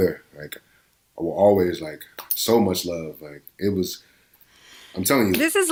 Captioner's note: none